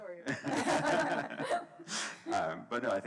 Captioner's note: laughs